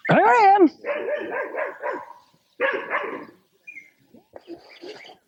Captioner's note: birds chirping